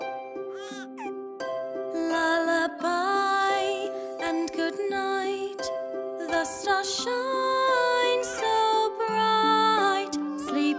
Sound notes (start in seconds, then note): 0.5 crying